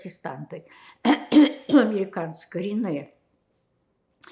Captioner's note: clears throat